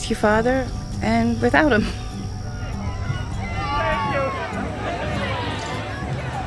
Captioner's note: cheering